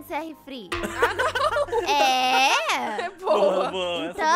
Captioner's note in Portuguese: Risadas